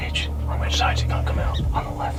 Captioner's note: whispering